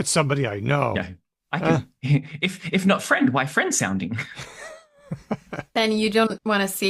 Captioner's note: laughter